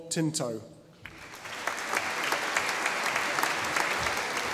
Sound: audience applauding

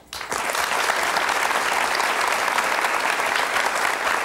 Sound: audience applauding

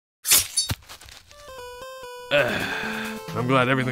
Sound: guillotine swishes; quirky music

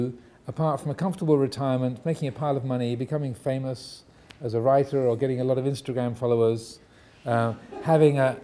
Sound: audience laughing

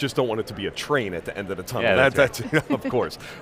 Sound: chuckles

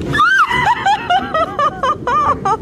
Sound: bites into grub; squeals; laughing

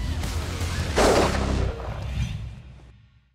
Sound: gunshot

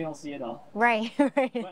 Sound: chuckles

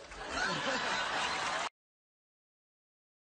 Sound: laughter

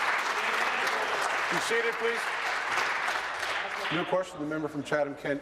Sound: applause

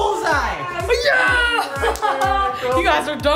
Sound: claps

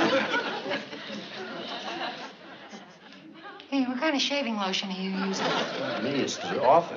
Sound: sniffing

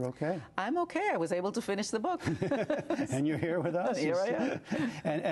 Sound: laughter

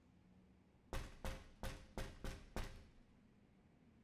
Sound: door knocking

